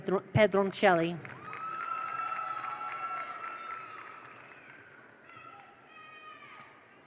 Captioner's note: attendees applaud; attendees cheer